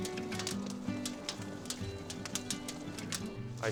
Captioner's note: gentle music continues; fire crackling